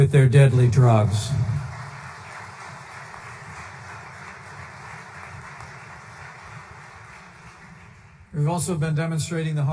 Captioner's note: applause